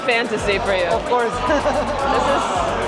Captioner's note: laughs